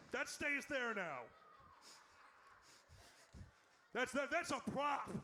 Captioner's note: audience laughs